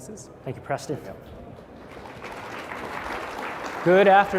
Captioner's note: applause